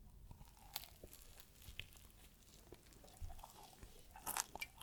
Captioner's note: eating sound